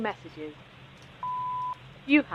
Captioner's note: beep